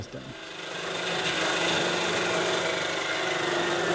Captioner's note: cutter buzzing